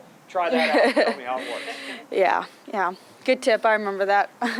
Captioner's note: laughs